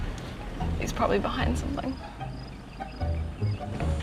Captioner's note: insects chirping